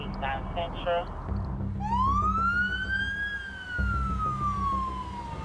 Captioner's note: sirens wailing